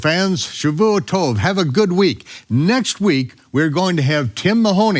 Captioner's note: speaks in foreign language